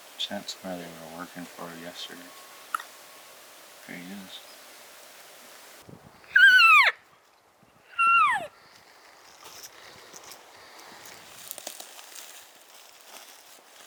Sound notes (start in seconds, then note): 2.6 elk bugling